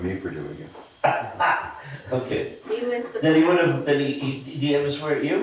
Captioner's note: laughing